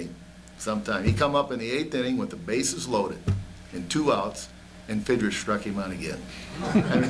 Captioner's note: laughter